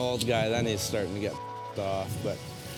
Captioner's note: beep